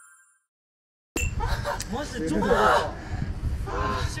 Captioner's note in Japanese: 息切れ